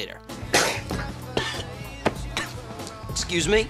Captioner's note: coughing